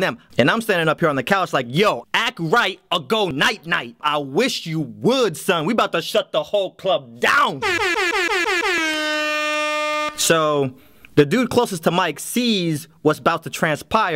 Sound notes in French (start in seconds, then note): 7.6 bruits de klaxon d'air